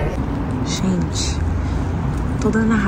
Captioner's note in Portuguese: sussurrando